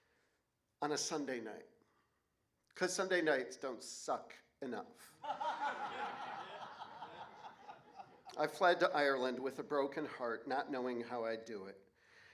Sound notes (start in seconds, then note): 5.2 laughter